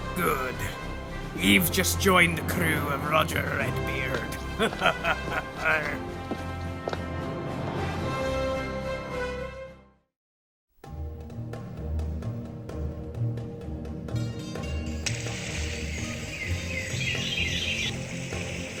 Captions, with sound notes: Good. You’ve just joined the crew of Roger Redbeard. (Laughing)